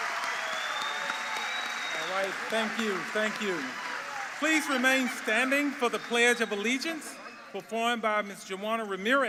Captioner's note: cheers and applause